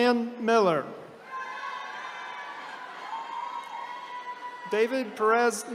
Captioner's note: attendees cheering